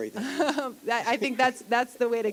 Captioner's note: chuckle